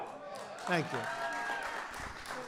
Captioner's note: applause